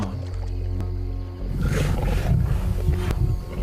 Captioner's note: snarls